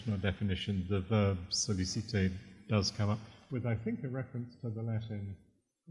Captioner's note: french